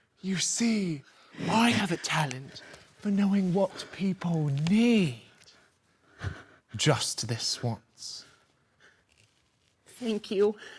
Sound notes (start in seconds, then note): 5.9 heavy breathing; 8.5 heavy breathing